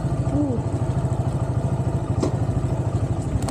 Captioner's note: motorbike engine